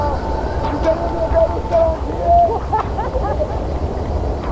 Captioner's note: laughing